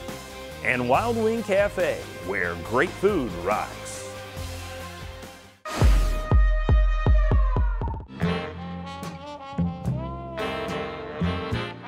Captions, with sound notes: And Wild Wing Cafe, where great food rocks. (air rushing) (drum beats) (sultry jazz music)